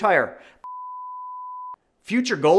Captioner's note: graphics beeping